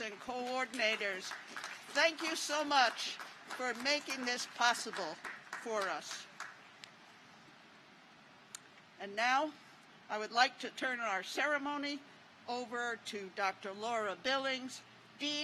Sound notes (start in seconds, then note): 6.9 applause